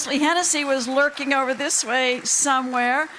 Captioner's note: applauding